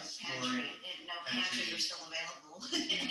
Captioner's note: laughs